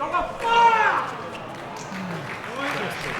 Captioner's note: yelling; clapping